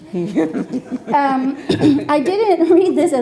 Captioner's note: laughing